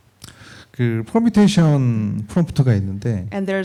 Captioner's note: speaking korean